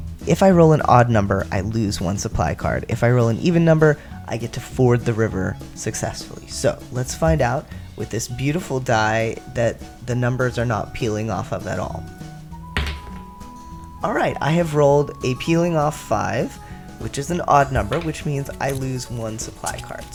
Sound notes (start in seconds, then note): 11.8 sarcasm yet again; 12.7 sounds of dice hitting table